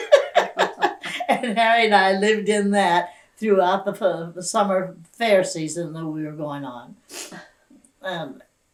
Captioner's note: laughter